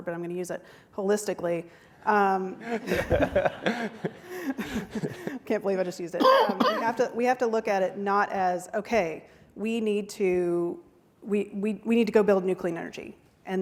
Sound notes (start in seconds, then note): 2.6 all chuckle